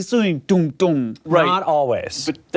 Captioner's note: imitates drum